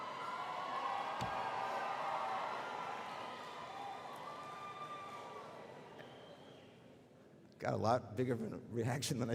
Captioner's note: cheering